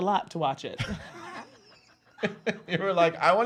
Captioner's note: laughs